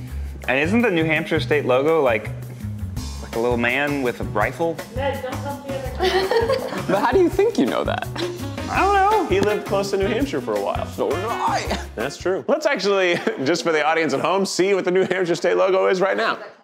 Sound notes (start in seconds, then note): 5.9 laughs